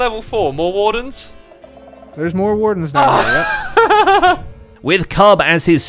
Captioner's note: exhausted laugh